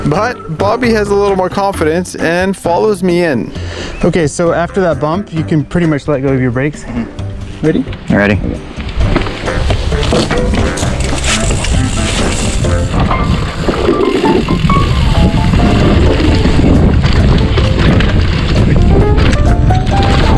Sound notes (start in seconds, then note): 11.6 bike tires on trail; 14.4 upbeat piano music